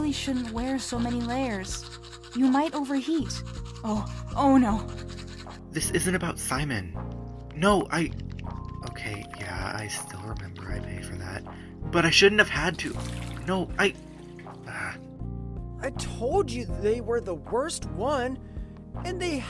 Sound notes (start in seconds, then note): 4.0 xiu, on the phone